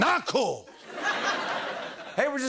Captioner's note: laughter